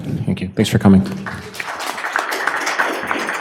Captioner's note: audience clapping